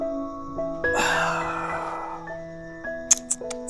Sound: grunts

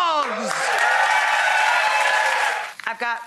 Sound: audience cheering

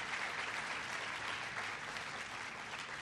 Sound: applause

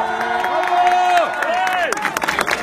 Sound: crowd

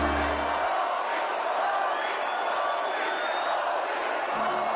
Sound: crowd chanting " "

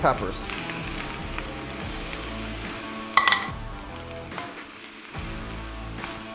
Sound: food sizzling; upbeat rock music

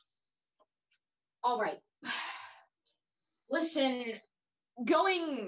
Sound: sighs

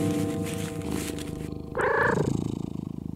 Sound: Broccoli chirps with excitement

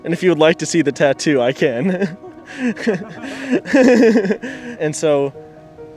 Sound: laughing

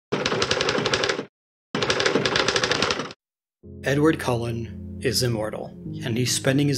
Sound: typing

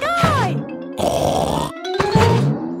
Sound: snorts

